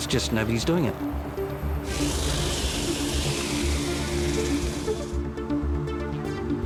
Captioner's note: upbeat electronic music; airboard whirring; upbeat electronic music